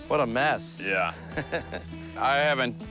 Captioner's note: laughs